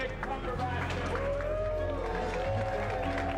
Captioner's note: cheering